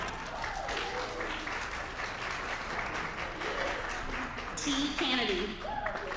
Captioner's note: applause